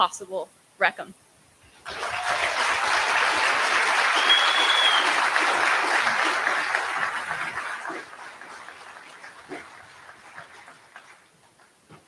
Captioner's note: applause